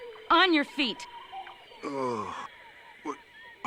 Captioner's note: groaning